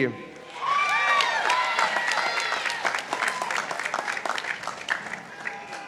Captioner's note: participants applauding